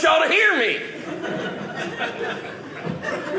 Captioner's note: audience laughing